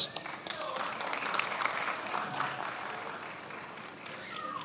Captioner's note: attendees applauding